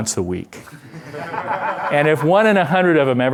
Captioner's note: laughter